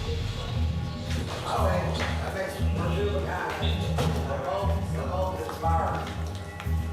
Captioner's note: indistinct chatter